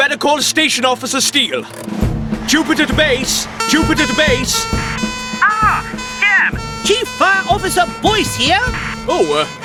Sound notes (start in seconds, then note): 4.2 sirens Wail